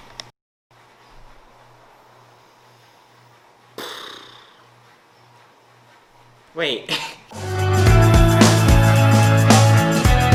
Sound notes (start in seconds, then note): 3.9 exhales; 6.9 laughs; 7.3 upbeat music